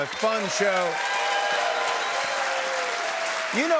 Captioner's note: cheers and applause